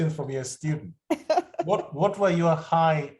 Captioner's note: laughter